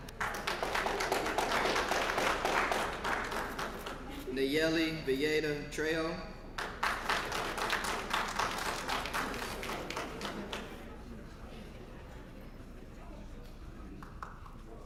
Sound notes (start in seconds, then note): 0.0 applause; 6.5 applause; 13.9 applause